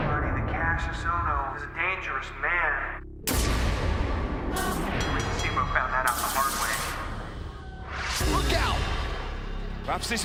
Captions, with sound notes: THAT KASSIUS OHNO IS A DANGEROUS MAN. >> [BELL RINGING] >> STEAMBOAT FOUND THAT OUT THE HARD WAY. >> LOOK OUT.